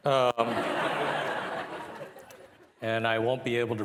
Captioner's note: participants laughing